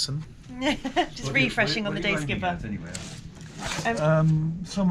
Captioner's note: laughs